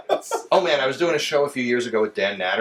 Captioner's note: laughs